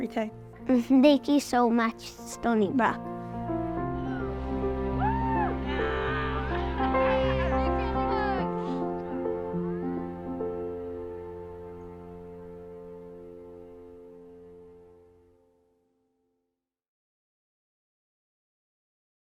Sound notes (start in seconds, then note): 4.8 cheering